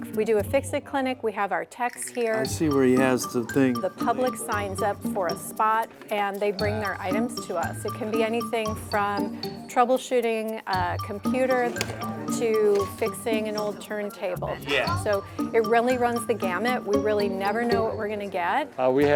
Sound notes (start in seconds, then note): 11.6 sound of plastic gadget